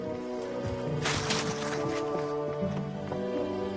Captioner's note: crinkles newspaper